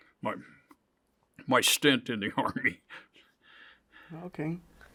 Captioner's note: chuckles